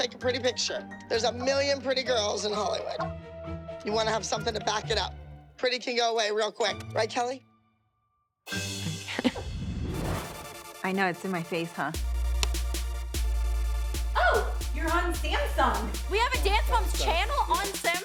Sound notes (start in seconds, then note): 9.0 laughs; 12.3 upbeat music playing